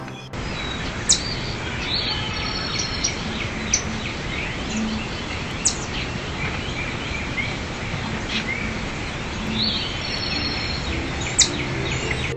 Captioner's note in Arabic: صوت السنجاب